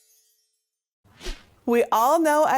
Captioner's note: stars twinkling; air whooshing